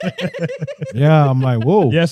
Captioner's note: laughing